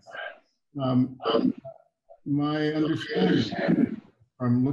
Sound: audio distorting

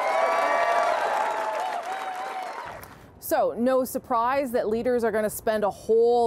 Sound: cheers and Applause

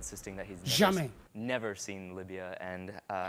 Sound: speaks in a foreign language

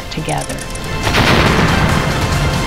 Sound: rocket ignites

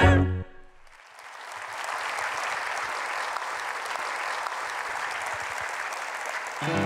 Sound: applause

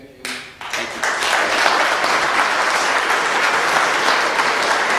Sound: clapping

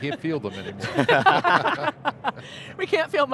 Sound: both laugh

